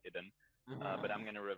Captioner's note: disappointed groan